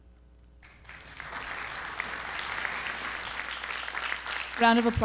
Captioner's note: audience applauding